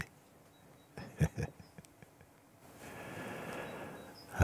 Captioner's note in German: lacht